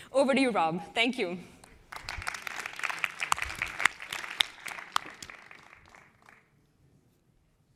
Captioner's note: applause